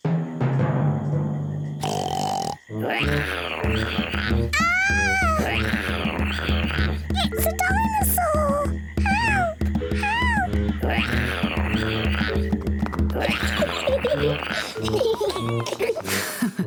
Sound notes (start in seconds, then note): 1.8 oinks and roars; 10.4 roars; 12.8 laughs; 12.8 roars